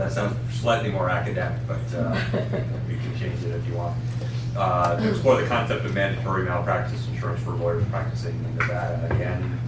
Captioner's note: laughter